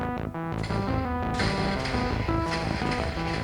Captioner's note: laggy explosion sounds